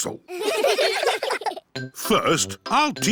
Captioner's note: all giggling